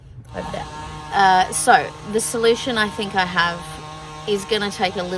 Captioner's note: house sanding still happening